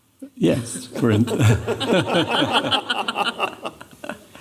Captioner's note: laughter